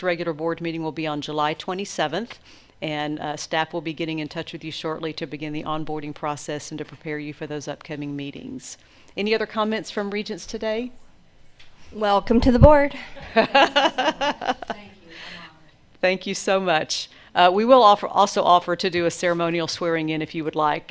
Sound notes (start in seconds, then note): 13.0 laughs